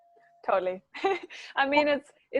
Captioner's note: laughs